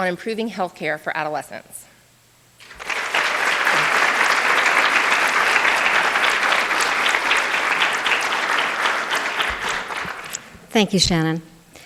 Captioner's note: applause